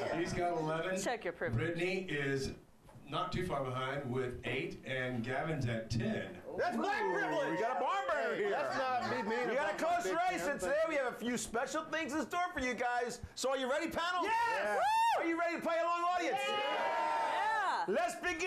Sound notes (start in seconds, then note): 15.7 audience cheering